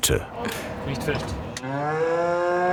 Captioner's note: mooing